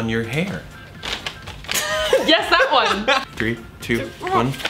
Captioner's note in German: kichert